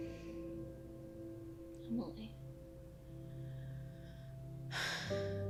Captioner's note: sighing